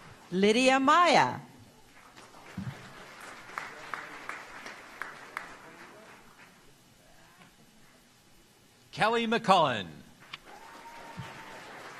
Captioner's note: applause